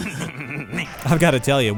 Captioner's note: Beavis laugh